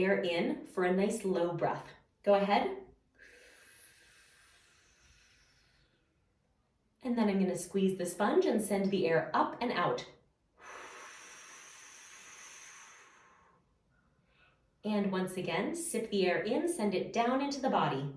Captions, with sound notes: in for a nice low breath. Go ahead. [Inhaling] And now I'm going to squeeze the sponge and send the air up and out. [Exhaling] [Exhaling] And once again, sip the air in - send it down into the body.